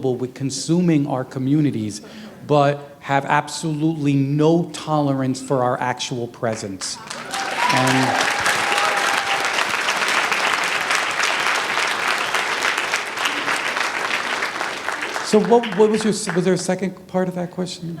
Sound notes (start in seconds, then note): 9.0 applause